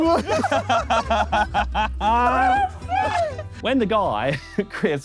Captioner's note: Sidemen laugh